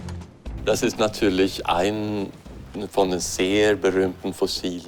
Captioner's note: German spoken audio